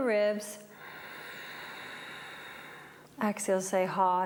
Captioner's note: breathes